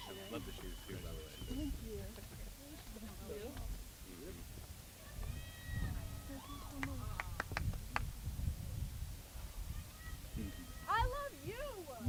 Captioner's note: applause